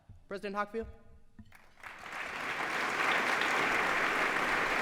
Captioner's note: applause